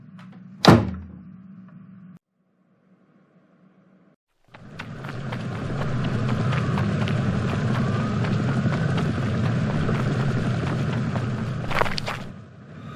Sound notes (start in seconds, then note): 0.6 door slams; 4.4 running footsteps, city night sounds; 11.3 footsteps stop; 12.7 eerie, tense droning sound